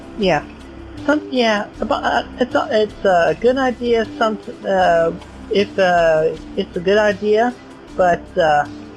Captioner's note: stuttering